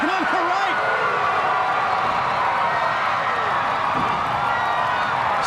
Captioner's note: crowd cheering